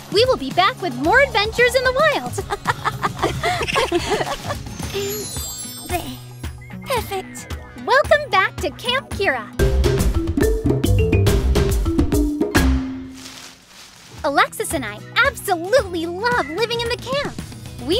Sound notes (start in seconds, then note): 2.2 both girls laugh